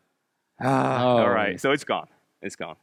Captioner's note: both sighing